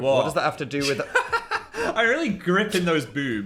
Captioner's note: laughs